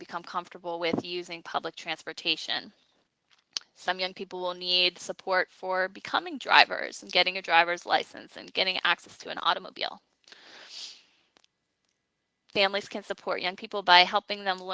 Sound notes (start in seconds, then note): none